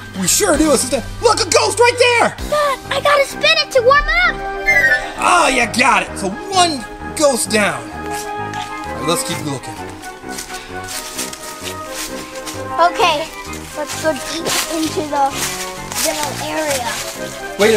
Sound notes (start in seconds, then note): 10.5 leaves crunching